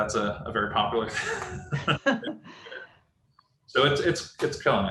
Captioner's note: laughs